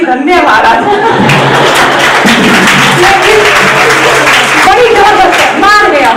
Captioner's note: audience claps